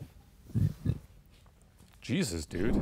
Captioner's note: burps